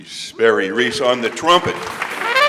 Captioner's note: audience applauds; upbeat trumpet music